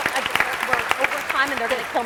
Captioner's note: applause